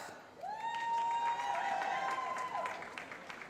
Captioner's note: cheering